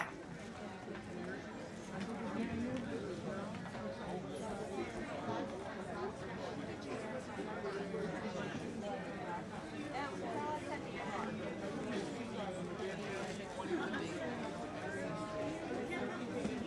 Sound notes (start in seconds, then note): 1.9 people chattering